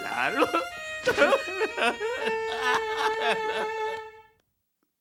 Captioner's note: sobbing